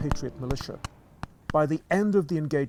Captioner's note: multiple gun shots